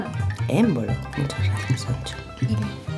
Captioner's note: whisper; 😶 Whispers